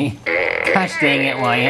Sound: fart noises

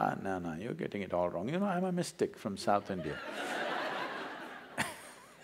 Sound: laughter

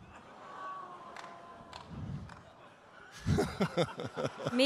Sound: audience laughing; audience member clapping; laughing

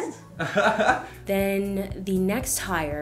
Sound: laughs

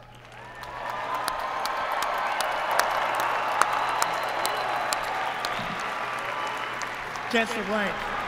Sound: applause

